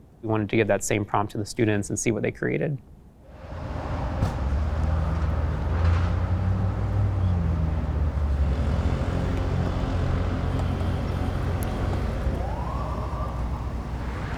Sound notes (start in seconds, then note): 5.1 traffic; 12.2 sirens